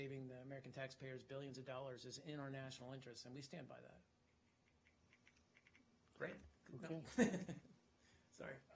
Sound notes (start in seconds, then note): 7.0 laughter